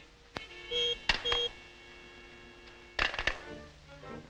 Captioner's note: device beeping